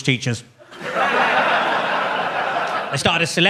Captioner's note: audience laughs